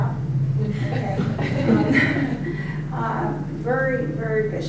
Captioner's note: audience laughing